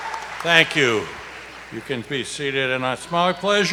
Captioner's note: applause